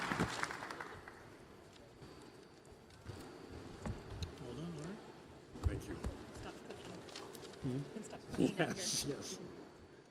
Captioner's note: applause